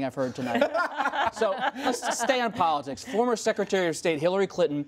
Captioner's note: laughter